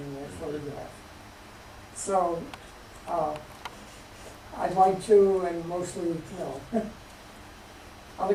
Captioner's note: chuckles